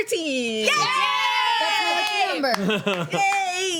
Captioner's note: cheering; laughing